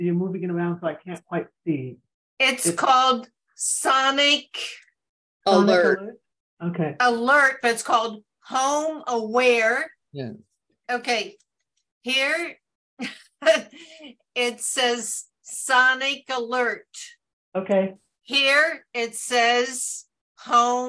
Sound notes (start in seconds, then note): 13.0 chuckle